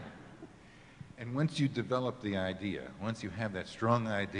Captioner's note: laughing